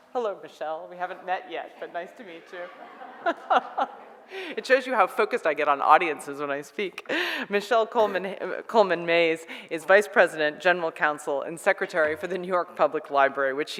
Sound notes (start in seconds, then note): 2.3 audience laughs; 2.4 laughs